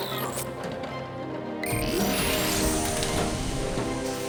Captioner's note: OMNI beeping